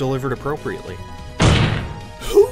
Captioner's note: slam